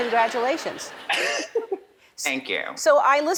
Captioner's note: chuckles